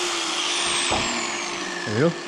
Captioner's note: grinder whirring